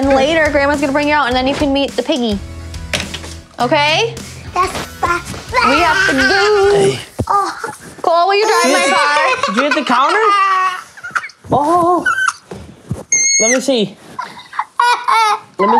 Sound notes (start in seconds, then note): 5.5 yells; 7.1 grunts; 8.3 cries; 14.3 cries